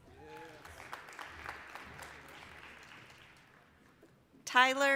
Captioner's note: applause